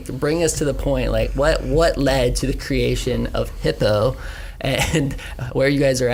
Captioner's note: chuckles